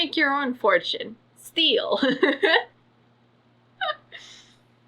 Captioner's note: laughs